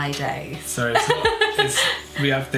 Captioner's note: laughs